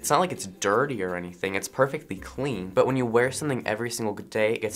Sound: none

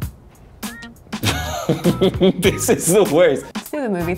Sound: laughs

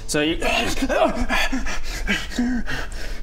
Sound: hrrgh...urghh; panting

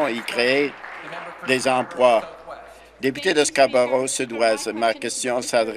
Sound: applause

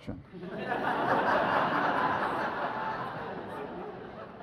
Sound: audience laughs

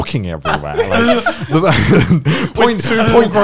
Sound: laughing loudly

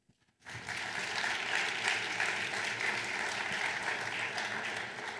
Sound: audience applauding

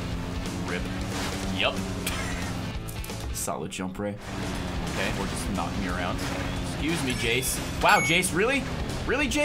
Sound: laughs

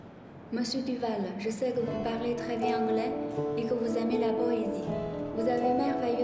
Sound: French

